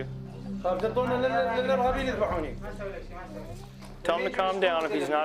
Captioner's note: Iraqi man speaking in Arabic